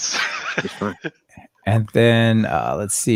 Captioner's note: laughing